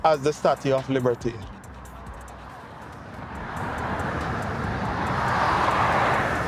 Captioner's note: people chattering